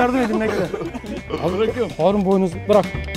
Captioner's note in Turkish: Gülüşmeler